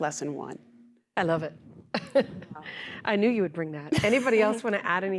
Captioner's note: laughter